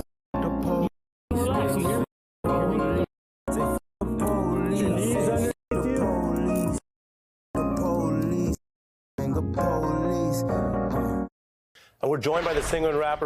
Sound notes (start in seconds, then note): 6.7 muted